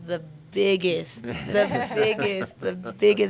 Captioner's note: laughing in unison